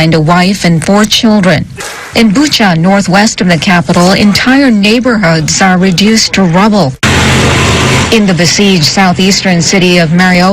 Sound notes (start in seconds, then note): 5.0 sounds of trucks